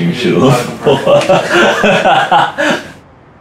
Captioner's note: laughter